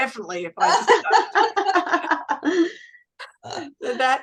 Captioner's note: everyone is laughing